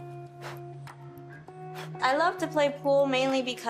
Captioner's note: exhaling sharply